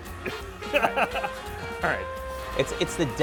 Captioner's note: laughing